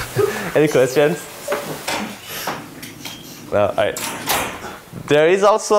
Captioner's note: laughter